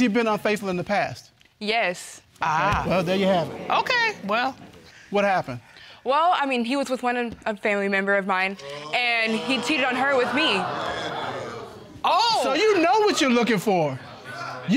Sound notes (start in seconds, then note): 11.2 audience exclaiming